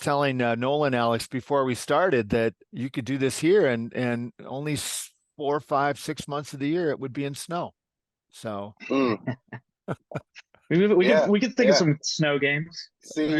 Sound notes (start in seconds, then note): 9.8 laugh